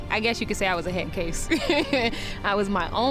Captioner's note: laughs